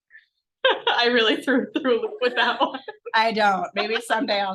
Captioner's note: laughs